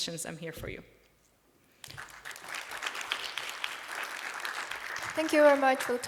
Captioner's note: applause